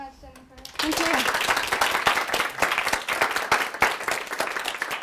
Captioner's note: applause